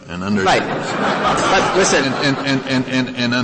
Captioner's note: laughter